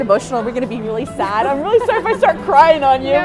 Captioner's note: laughs